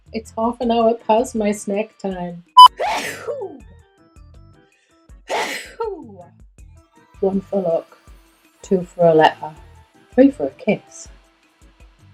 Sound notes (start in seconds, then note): 2.9 sneezes